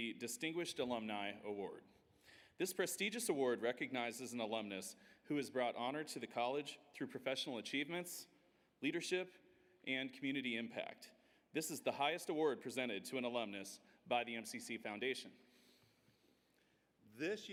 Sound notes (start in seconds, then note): none